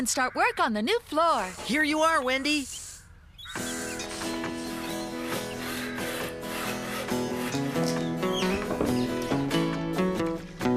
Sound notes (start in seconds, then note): 5.8 sawing Noises